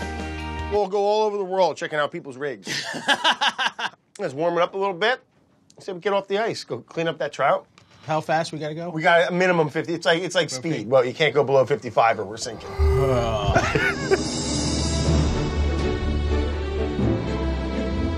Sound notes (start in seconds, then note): 2.6 laughs; 12.6 laughs; 14.8 inspirational music